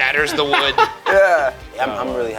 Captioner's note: laughing